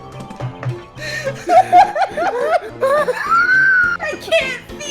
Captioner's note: laughter